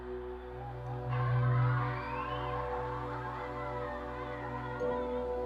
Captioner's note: children cheering